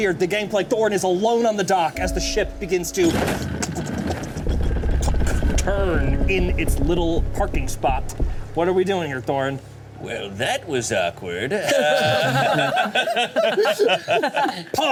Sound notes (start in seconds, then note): 3.0 wood clanking; 11.5 all laughing